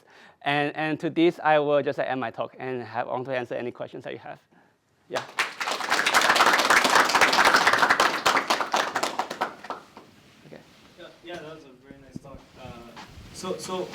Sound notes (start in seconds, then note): 5.1 applause